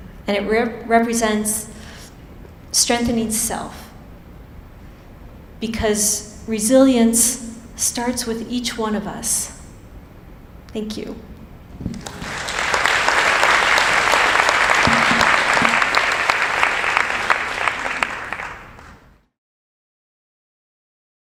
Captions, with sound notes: and it represents strengthening self because resilience starts with each one of us. Thank you. (applause)